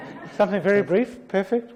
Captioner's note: audience laughs